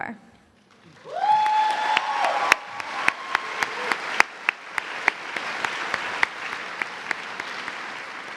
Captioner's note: cheers and applause